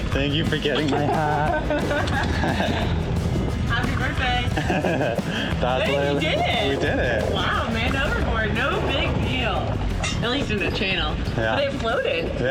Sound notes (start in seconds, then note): 4.5 laughs